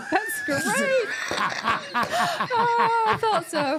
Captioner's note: R-Truth laughing